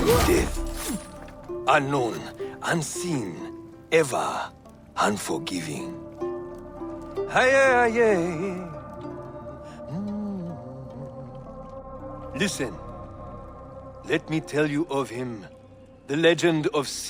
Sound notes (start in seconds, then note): 7.4 humming